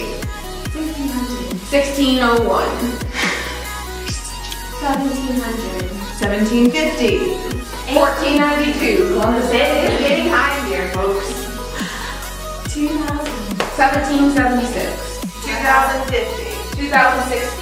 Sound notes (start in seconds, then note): 3.0 scoffs